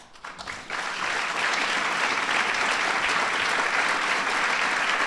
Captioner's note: applause